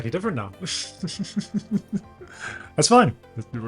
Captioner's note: laughs